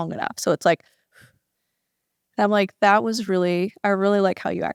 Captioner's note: quick exhale